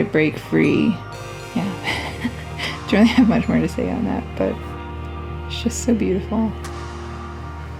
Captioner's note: laugh